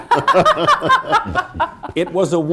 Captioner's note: laughter